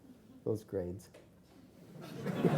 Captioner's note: laughing